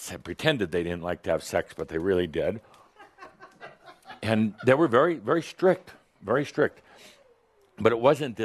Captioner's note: a few giggles